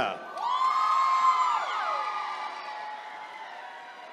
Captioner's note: attendees cheering